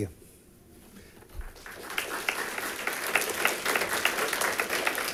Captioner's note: audience applauds